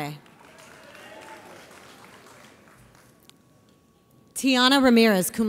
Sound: audience applauds

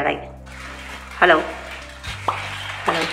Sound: plastic rustling

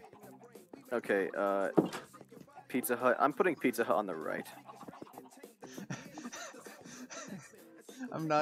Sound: various wheezing

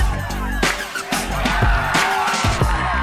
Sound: crowd cheers

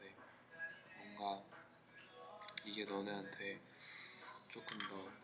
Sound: sniff

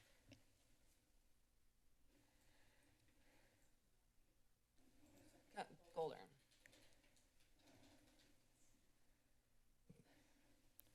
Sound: silence

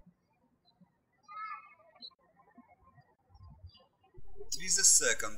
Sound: birds chirping

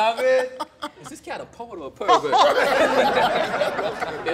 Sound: laughter

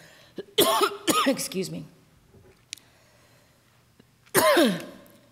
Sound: coughing

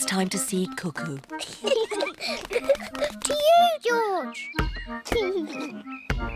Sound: both laugh

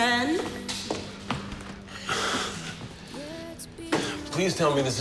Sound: sighs

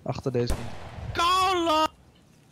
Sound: boom

